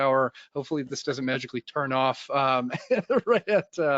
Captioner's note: laughs